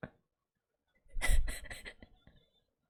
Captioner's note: laughs